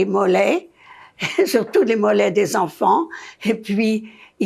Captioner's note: laughing